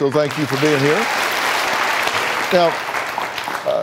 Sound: audience claps

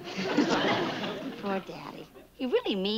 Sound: chuckles

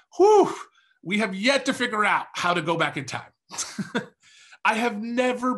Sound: laughs

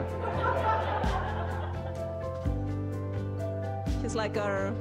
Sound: audience laughing

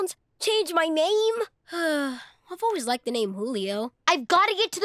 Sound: sighs

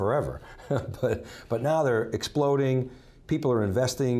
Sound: laughs

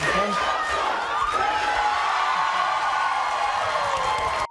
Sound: cheering

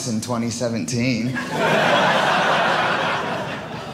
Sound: audience laughing

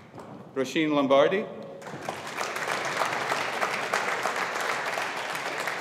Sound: audience applauding

